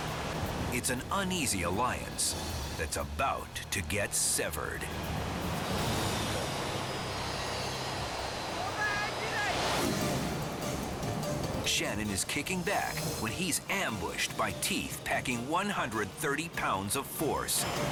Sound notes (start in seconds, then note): 0.0 waves crashing; 5.4 waves crashing; 9.6 upbeat dramatic music